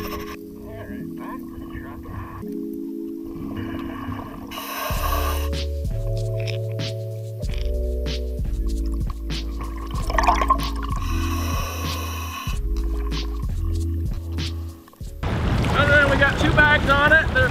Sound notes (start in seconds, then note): 2.6 upbeat music; 3.2 breathing underwater; 5.4 upbeat music; 10.2 water bubbling; 10.9 breathing; 12.7 upbeat music; 15.2 waves roaring